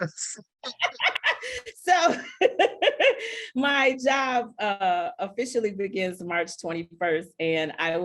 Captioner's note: laughing